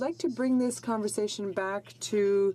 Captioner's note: speaking in french